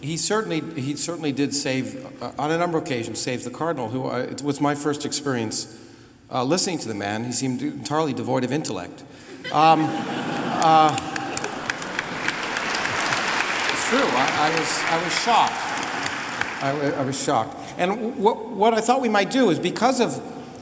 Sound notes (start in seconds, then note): 10.1 applause